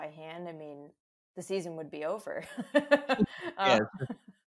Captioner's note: laughs